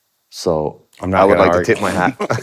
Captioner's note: laughs